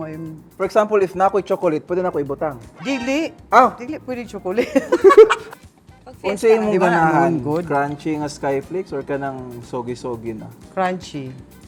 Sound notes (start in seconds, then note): 4.6 laughs